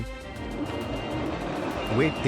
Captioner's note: hanger doors opening